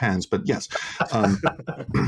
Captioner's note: laughter